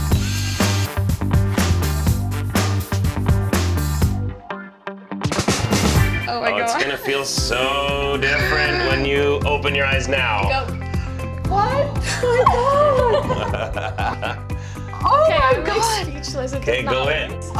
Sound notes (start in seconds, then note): 11.6 laughs